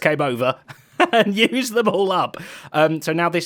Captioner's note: laughs